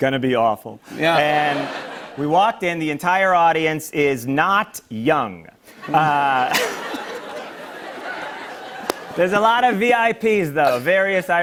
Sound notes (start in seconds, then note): 0.9 laughter; 5.7 laughter